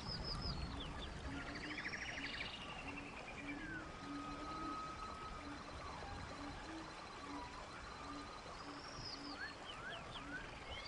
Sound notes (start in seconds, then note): 0.8 water flowing